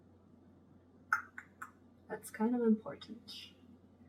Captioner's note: clicks tongue